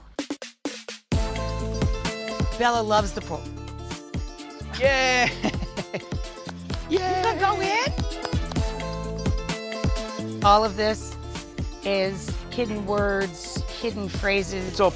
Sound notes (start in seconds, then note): 0.1 upbeat music; 4.7 laughs; 8.7 upbeat music